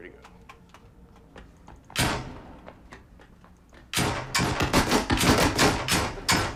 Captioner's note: shooting sounds